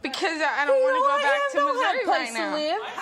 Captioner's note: high-Pitched, rapid speech